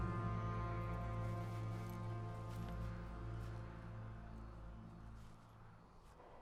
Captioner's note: wind gusts increase